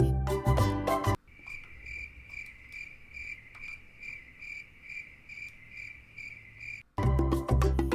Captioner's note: crickets Chirping